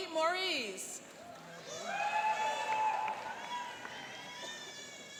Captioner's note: cheering and applauding